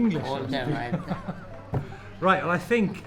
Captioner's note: laughing